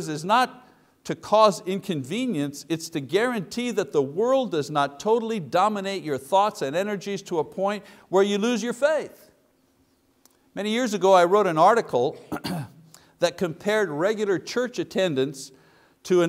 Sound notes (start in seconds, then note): 12.1 coughs